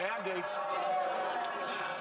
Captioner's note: crowd shouting